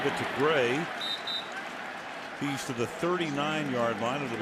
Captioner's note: whistle